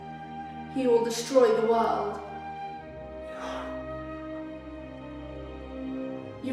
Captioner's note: quietly